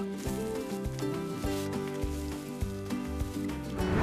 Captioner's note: waves wash on shore